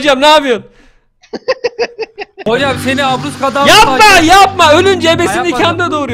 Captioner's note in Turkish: mevicanın gülme sesi